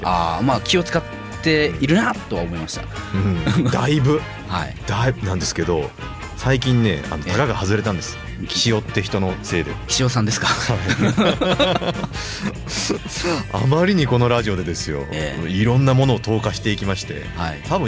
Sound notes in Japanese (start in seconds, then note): 10.4 笑い